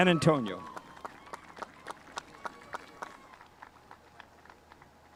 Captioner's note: spectators applauding